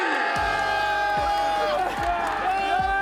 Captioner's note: applause